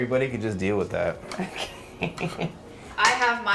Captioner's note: laughs